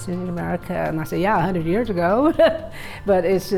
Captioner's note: chuckles